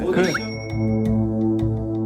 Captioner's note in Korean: 으흠